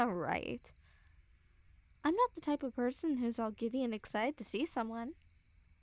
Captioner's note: none